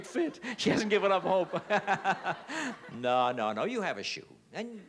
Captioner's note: laughs